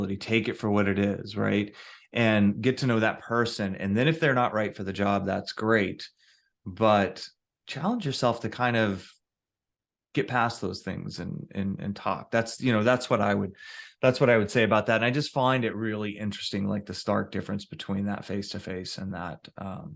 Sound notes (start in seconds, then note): none